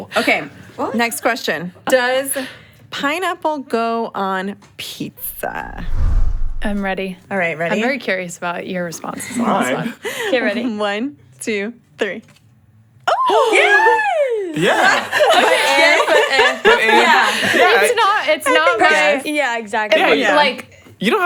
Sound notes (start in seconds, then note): 5.2 air whooshes; 14.5 group laughs